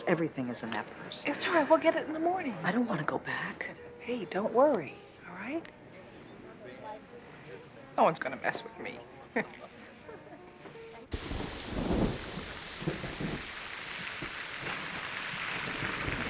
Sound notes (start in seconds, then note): 9.3 laughs; 11.1 thunder roaring